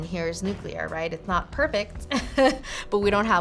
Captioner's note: laughs